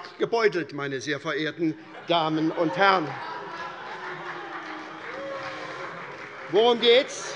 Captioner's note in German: Vereinzelte Heiterkeit und Beifall SPD und Freie Demokraten